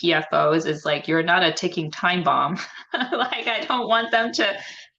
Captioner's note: laughs